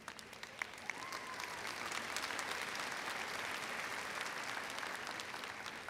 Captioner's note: audience applauding and cheering